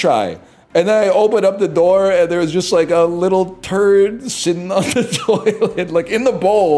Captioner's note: laughing; laughs